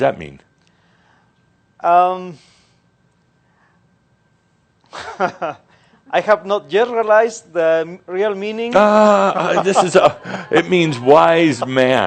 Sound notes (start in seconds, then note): 4.9 he pauses, then chuckles; 8.7 continues chuckling